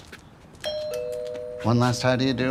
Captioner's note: doorbell rings